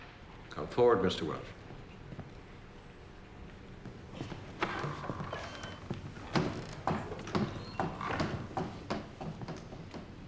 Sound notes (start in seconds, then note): 4.1 door opens, closes